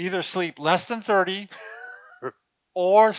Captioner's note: laughing